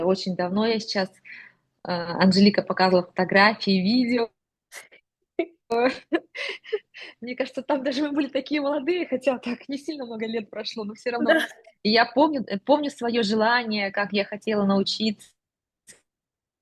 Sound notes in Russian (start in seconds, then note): 5.4 смех